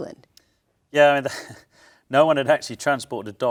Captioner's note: chuckles